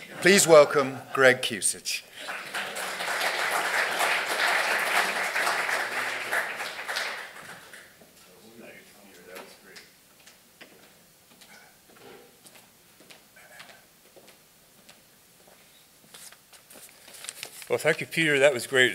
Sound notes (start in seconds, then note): 2.1 audience applause